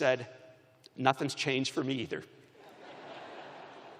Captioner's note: laughter